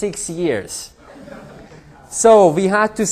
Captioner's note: laughter